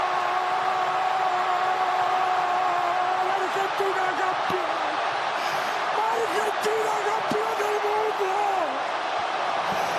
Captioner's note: yelling